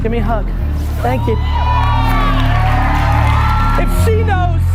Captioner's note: audience cheers